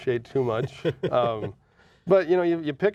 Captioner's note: laughing